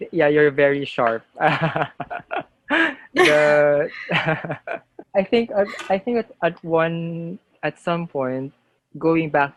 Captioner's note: laughter